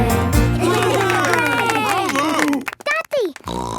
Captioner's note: cheering; snorting